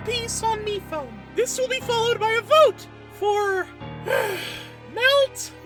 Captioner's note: sigh